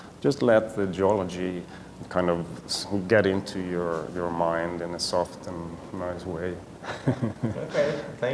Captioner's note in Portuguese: risos